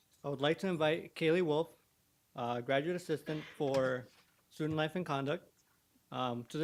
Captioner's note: none